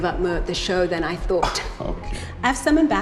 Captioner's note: chuckles